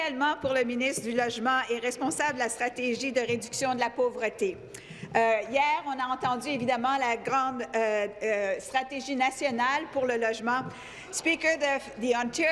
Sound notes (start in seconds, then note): 2.7 speaking in French